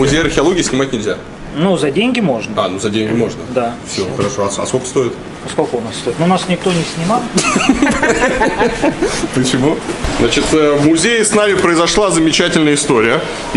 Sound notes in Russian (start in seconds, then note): 7.3 смех